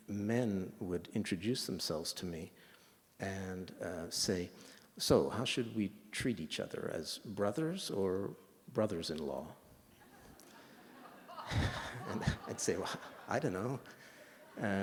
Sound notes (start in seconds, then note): 10.0 laughter